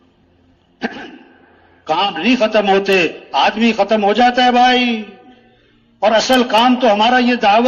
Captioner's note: गला साफ करते हुए